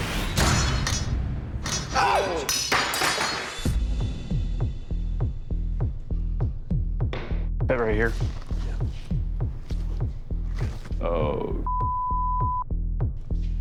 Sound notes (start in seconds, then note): 1.1 shout